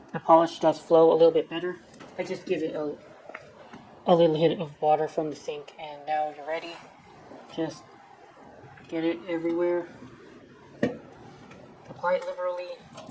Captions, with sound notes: the polish does flow a little bit better. I just give it a... a little hit of water from the sink, and now you're ready. Just... get it everywhere. (Thump) Apply it liberally.